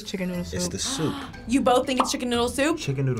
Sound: gasping

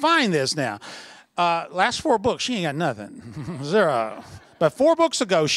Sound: laughter

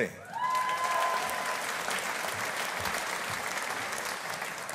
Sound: audience applauding

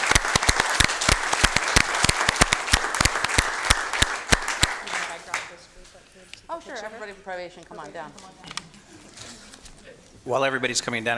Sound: applause

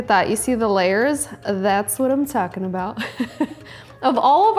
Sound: laughs

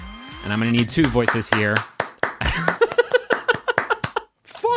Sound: laughing

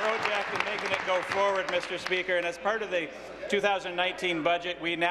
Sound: applause

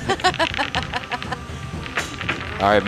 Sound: laughing

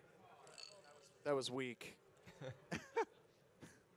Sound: glass clinking; laughs

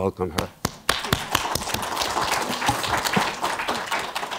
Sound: audience clapping

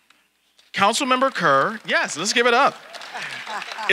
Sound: audience applauding

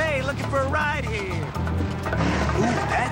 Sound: engine vrooms

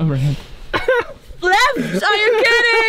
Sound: laughs

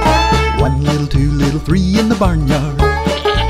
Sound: goat baas

